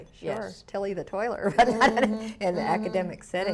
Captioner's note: laughs